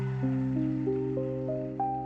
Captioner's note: cheers and applause